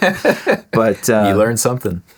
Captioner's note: laughing